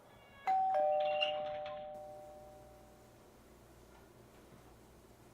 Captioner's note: doorbell rings